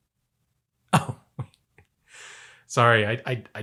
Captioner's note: laughs